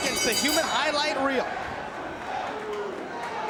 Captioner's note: bell ringing